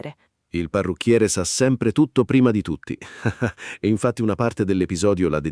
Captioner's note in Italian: Haha